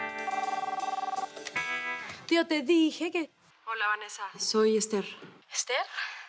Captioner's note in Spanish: Suena el teléfono